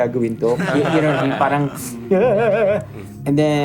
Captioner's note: mocking